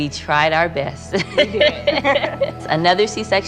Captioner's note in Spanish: risas